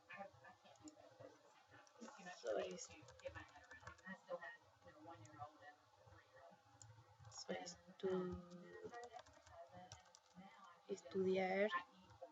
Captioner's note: speaking spanish; spanish